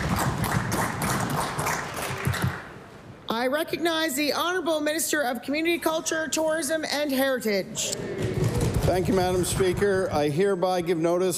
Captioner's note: applause